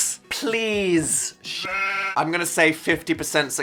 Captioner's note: sheep baaing